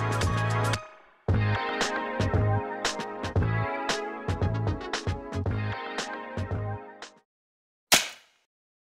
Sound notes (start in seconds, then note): 7.9 slaps